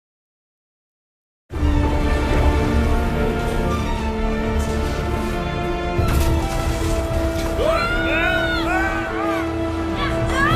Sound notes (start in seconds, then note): 7.4 all screaming